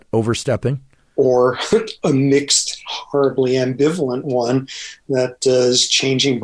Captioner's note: laughs